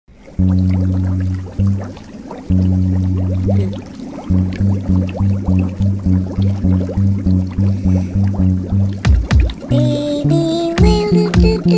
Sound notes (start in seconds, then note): 0.1 water bubbles